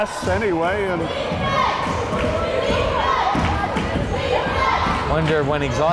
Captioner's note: crowd chanting defense